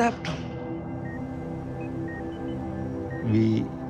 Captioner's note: machine beeping